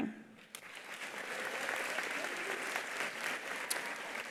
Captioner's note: attendees applauding